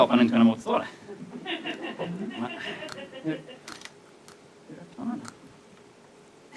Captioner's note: laughter